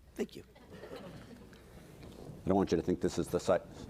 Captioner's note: audience laughing